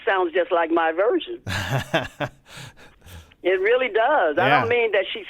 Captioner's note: laughter